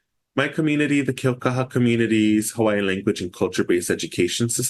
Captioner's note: foreign language